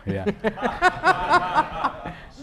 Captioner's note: laughter